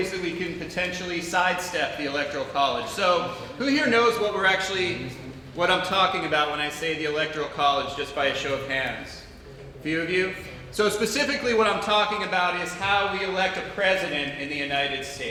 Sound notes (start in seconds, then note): none